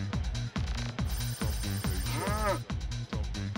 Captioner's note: cow Moos